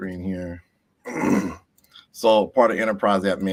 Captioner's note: throat clearing